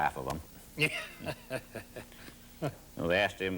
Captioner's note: laughs